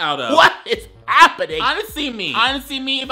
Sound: laughing

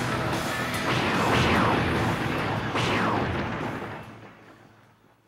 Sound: thunder booms

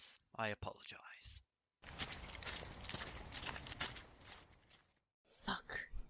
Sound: footsteps, which fade away as the guards retreat

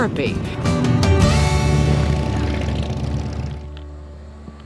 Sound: motorcycle engines roaring

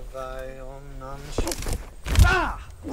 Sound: chants; grunt

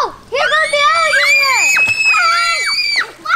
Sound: screaming

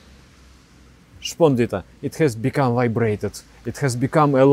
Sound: vibration

